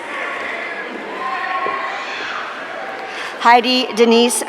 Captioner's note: audience cheering